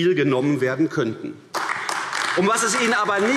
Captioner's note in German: Beifall AfD